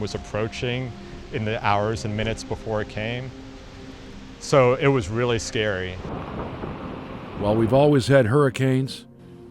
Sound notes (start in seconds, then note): 6.3 wind gusting